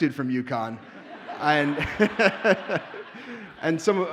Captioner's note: audience laughs